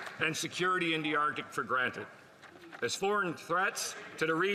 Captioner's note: applause